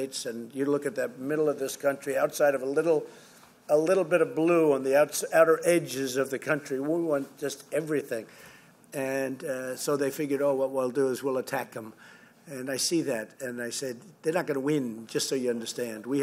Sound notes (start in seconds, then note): none